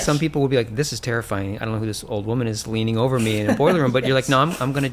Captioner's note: laughter